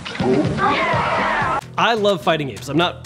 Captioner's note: all cheer